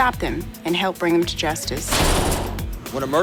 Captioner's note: door closes